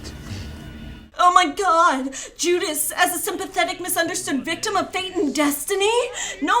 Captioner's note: voiceover